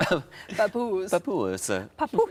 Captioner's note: Sarah and Tom laughing; imitates Tom